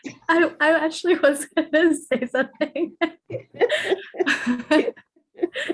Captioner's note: laughing